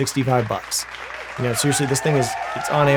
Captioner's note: audience applauding